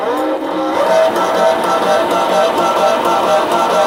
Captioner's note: sprayer whirring